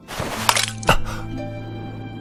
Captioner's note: sigh